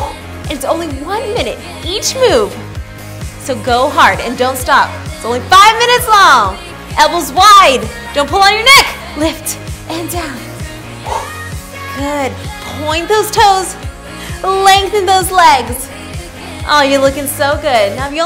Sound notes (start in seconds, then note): 0.1 exhales; 10.8 exhales